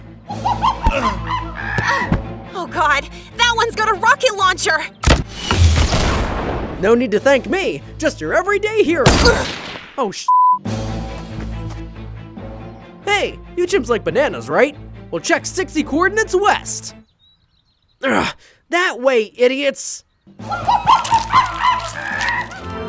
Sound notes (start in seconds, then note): 0.3 animals chattering; 5.2 explosion booming; 9.0 gun fires; 10.2 beep; 10.5 upbeat tense music continues; 18.0 Roach grunting; 20.3 animals chattering